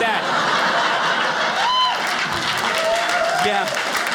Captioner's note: audience laughing